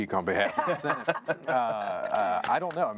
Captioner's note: laughing